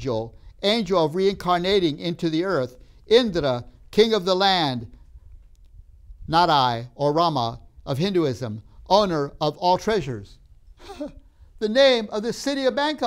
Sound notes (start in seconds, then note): 10.8 laughs